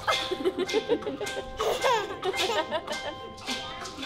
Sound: mother and Child laughing

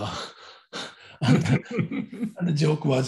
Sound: both laugh

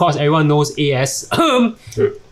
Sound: ahem

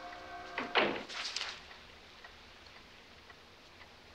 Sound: door closing

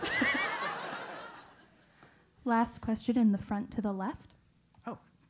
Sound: laugh

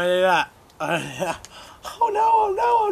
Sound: laughs

